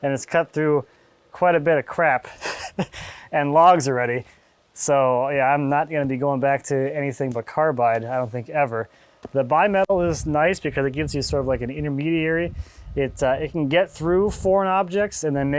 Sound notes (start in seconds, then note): 2.2 laughing